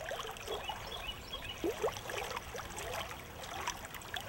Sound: birds chirping

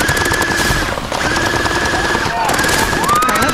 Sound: gunshot firing; screams

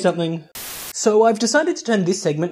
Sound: Static

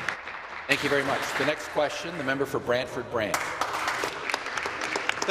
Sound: some Applause

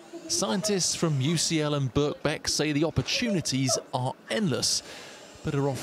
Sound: voice-over

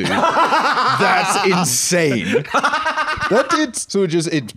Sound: laughs

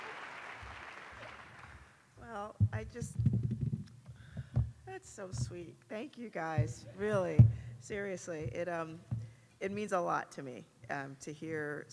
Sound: applause

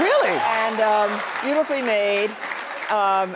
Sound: audience cheering; audience clapping

